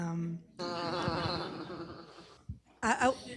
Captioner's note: laughter